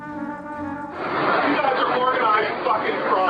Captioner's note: murmur of crowd